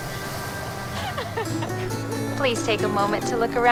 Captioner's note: attendant laughing; bright music